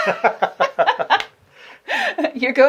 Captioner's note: laughing